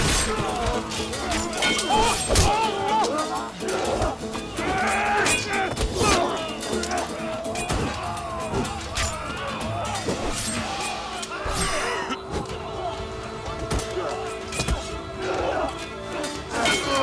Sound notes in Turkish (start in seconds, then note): 7.6 Kılıç sesleri; 11.6 Öksürüyor; 14.5 Kılıç sesleri